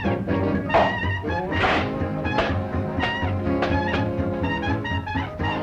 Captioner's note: cans thudding